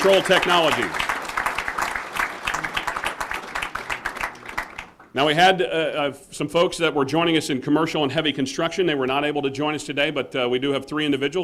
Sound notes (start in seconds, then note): 8.0 applause